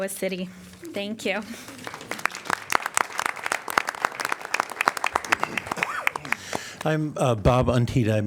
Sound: laughter; applause

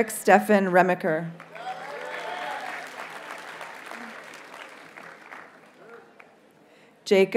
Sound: audience cheers and applauds

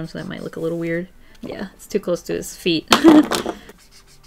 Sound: laughs

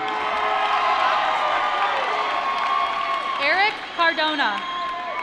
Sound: cheering

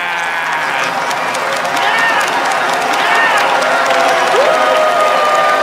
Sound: cheers and applause

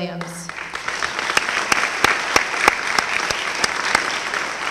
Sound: applause

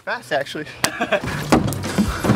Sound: smack

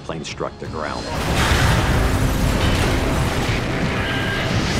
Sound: plane crashes

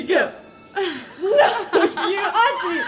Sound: laughing

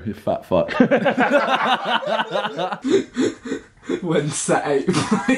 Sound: laughing

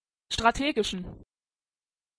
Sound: fast Pronunciation

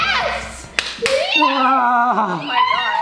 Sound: moans loudly

